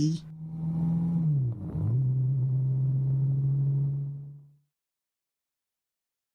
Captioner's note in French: Moteur qui accélère